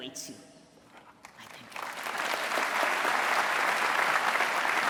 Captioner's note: applause